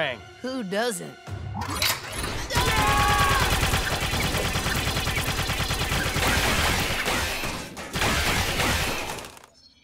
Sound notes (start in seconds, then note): 2.4 screaming